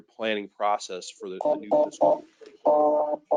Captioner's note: speaking faintly